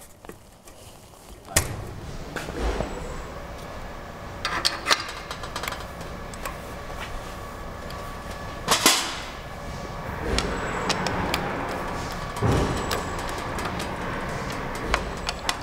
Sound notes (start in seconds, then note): 2.2 machine whirring in the background; 8.2 click